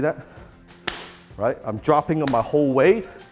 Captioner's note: smack